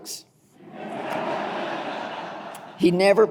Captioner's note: audience laughing